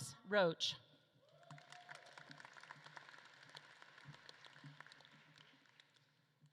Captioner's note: audience claps and cheers